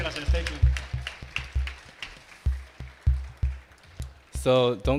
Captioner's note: attendees clapping